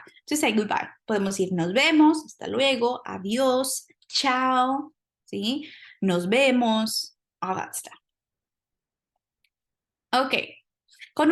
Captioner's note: speaking spanish